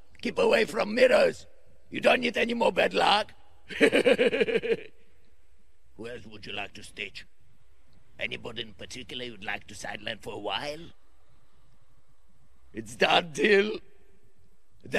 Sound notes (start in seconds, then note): 3.7 laughs